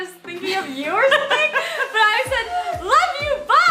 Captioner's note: laughs